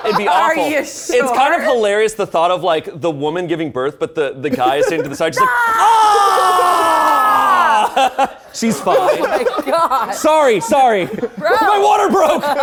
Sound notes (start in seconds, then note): 7.1 yelling